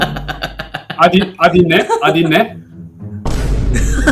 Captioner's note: Turkish